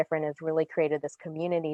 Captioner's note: none